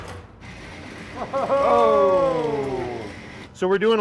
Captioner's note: group exclaims